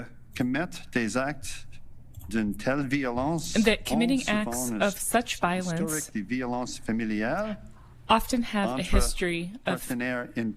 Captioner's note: speaking French